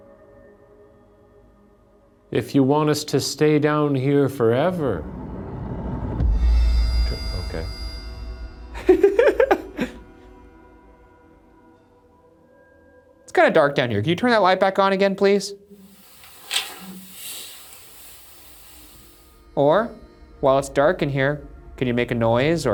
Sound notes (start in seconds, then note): 6.5 eerie dramatic music; 8.7 laughing